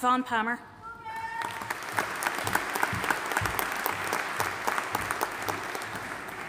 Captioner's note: audience applauding